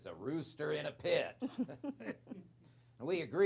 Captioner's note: chuckling